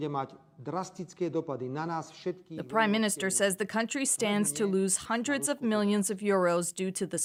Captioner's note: speaking alternate language